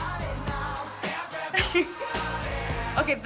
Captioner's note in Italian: ridacchiando